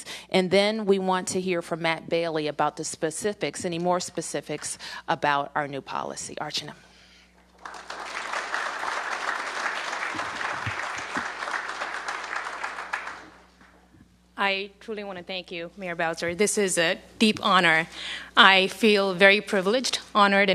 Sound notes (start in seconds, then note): 10.4 applause